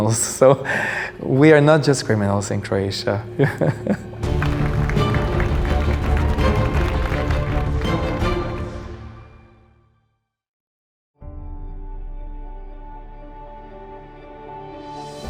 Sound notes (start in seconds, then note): 3.3 laughter; 4.2 clapping; 4.5 dramatic music